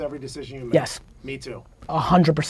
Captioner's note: pat